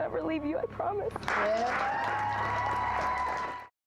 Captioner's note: applause